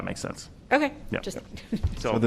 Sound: laughter

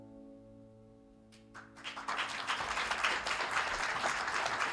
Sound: cheers and applause

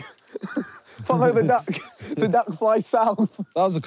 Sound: laughing

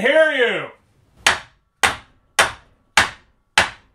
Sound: hammering

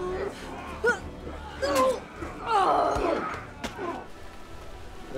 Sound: Angela grunting

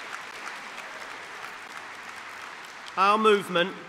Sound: applause

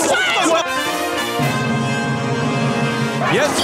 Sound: crowd yelling; upbeat theme music

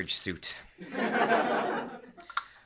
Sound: laughter

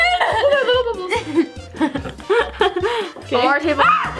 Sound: laughing

